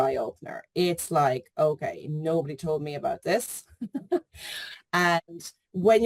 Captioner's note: chuckles